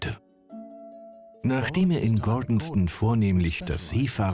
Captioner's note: voiceover